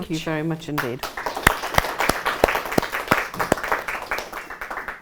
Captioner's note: applause